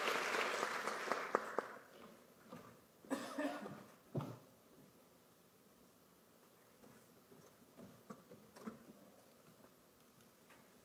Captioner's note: applause